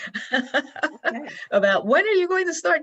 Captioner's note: laughs